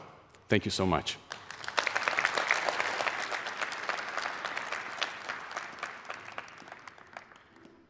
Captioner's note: applause